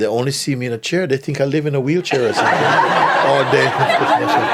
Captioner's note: laughter